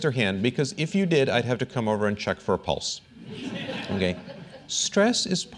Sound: laughter

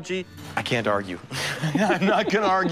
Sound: laughs

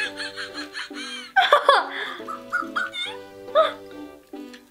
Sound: Fingerling laughs

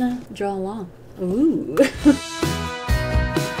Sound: laughs

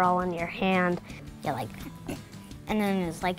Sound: sneeze

